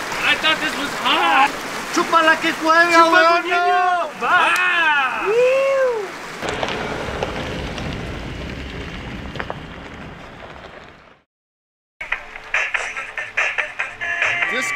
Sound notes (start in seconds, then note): 1.8 speaking in Spanish; 3.3 member yelling; 12.5 upbeat music